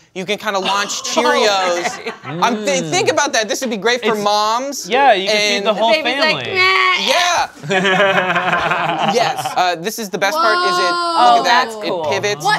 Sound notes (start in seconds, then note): 6.9 cries and chokes; 7.6 laughs